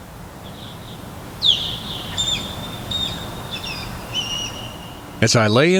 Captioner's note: SFX: Osprey chirping